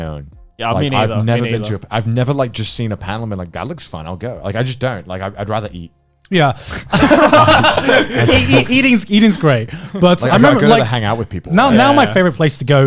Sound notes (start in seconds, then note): 6.7 laughing